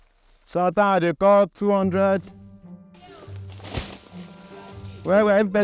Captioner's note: speaking in foreign language